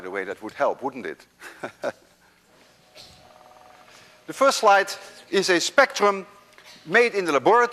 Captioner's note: chuckles